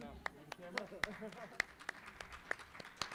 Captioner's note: applause